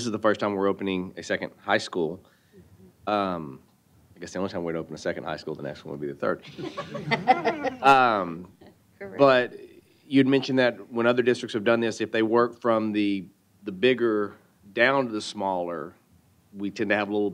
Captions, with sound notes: the first time we're opening a second high school. I guess the only time we'd open a second high school. The next one would be the third. (Laughter) >> But -- >> Correct -- >> -- you mentioned that when other districts have done this if they work from the bigger down to the smaller, we can have a little